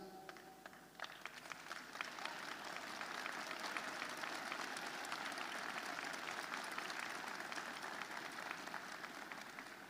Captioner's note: applause